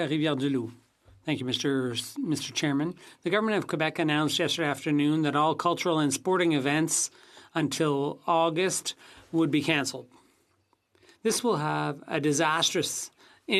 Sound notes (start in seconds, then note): 3.8 speaking FRENCH